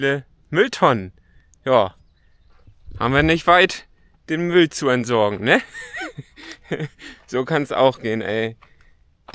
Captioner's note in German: gelächter